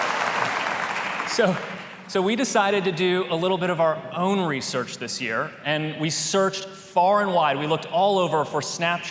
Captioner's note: applause